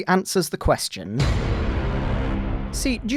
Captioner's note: bwuuuuuuuuuummmm